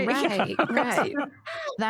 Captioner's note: laughter